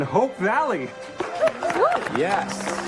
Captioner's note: applause